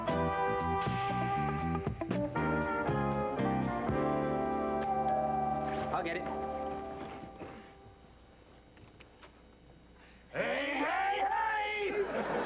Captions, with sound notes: [DOORBELL RINGS] I'LL GET IT. HEY HEY HEY!